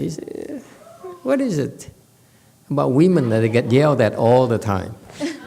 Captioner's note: laughs